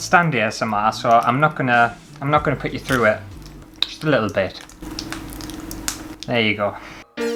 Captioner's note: Squelch